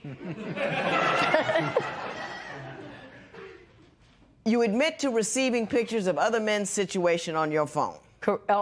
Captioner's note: laughter